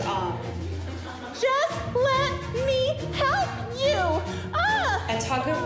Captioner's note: exclaims